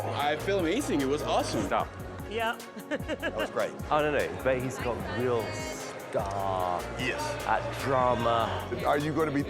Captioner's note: laughter